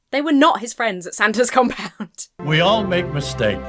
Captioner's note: laughs